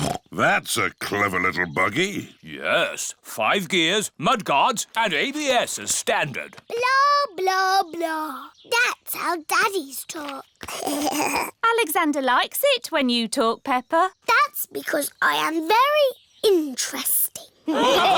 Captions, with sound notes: (SNORTS) That's a clever little buggy. Yes. Five gears, mud guards, and ABS as standard. Blah, blah, blah! -That's how daddies talk. -(ALEXANDER GIGGLES) Alexander likes it when you talk, Peppa. That's because I am very interesting.